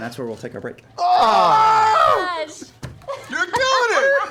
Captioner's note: shouting